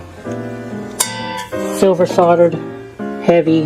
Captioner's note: sound of metal echoing